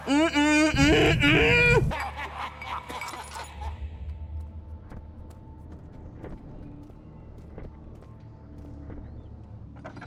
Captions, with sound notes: Mm-mm! MMMM-MMMMM! [Men laughing]